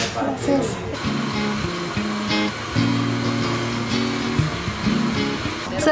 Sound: grinder whirring

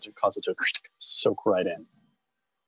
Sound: squelch

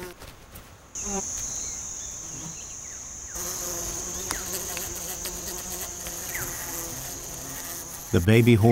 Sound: bee buzzing

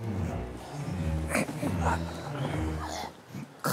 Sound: gets up with a groan

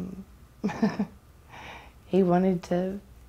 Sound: laughing

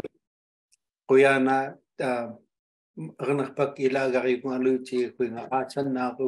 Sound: speaking foreign language

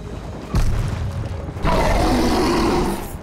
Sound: roaring

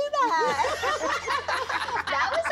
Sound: laughs; cast members laugh

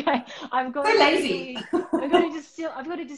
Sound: laughing

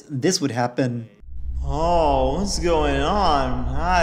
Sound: drunk-sounding

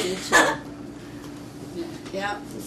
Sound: laughs

